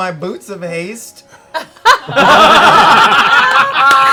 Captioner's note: laughter